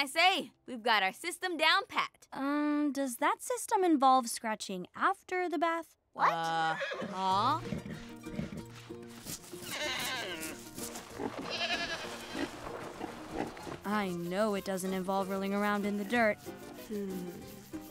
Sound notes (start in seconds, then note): 6.6 neighing; 7.9 scratching; 9.2 baaing; 11.0 oinking; 11.2 baaing